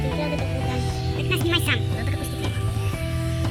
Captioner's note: say in a funny voice